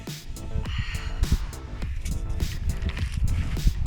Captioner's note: sigh